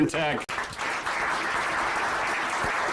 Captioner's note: applause